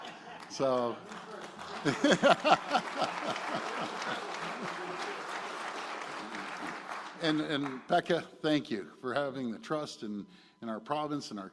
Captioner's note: laughter and applause